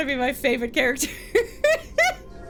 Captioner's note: laughs